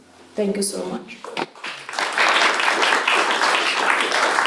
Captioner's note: applause